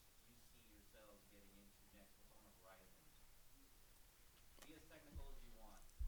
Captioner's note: speaking softly